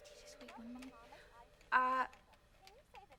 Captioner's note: whispering